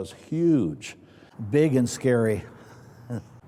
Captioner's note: chuckles